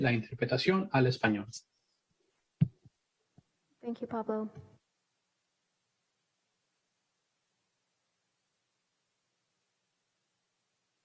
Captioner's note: speaking in a foreign language